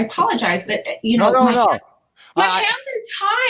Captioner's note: chattering